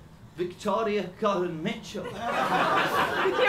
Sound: laughter

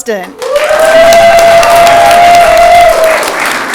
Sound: audience clapping

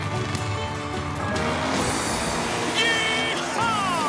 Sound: engines revving

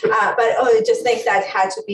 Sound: laughs

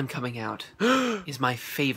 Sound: gasp

